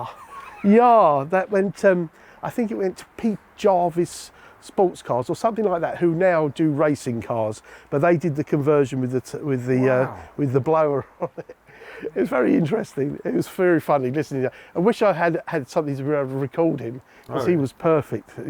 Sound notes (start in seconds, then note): 9.8 laughing